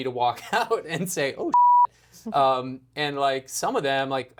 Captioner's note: beep